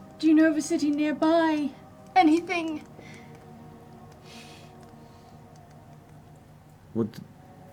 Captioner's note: tearfully